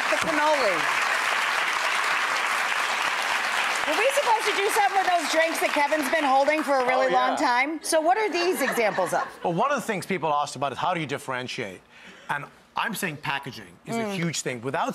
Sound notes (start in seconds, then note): 0.0 crowd claps; 8.3 crowd laughs; 11.7 coughs softly